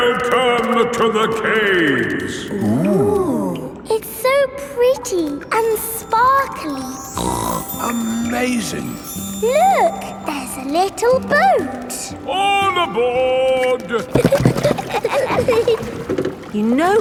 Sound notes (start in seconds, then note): 7.1 snorts; 14.0 giggling